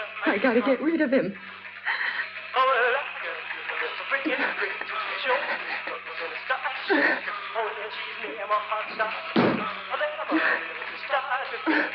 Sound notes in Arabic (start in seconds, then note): 2.1 لهث; 2.6 موسيقى الراديو مستمرة; 6.9 أصوات جهد